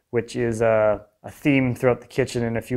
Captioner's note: none